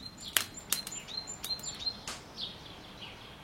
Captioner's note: birds chirping